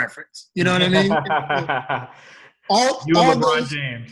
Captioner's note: laughing